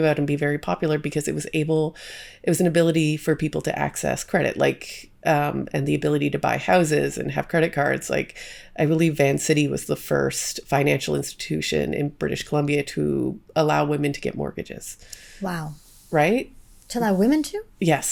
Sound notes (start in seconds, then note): none